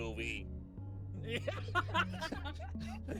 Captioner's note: laughs